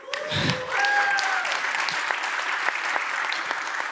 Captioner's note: audience applauds